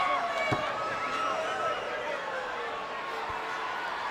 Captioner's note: spectators cheering